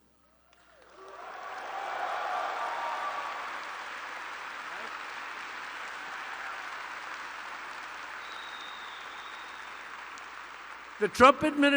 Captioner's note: applause